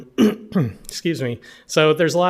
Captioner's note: clears throat